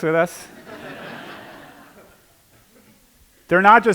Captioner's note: laughter